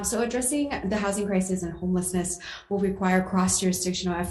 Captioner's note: none